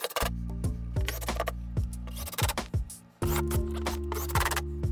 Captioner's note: drill whirring